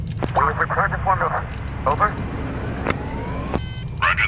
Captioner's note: crew chatter